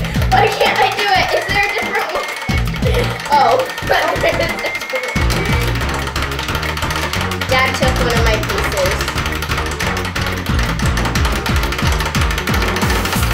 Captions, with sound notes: Why can't I do it? Is there a different one? Oh. (timer ticking) Dad took one of my pieces. (timer ticking)